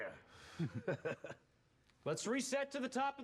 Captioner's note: laughs